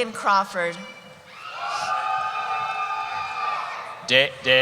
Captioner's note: cheering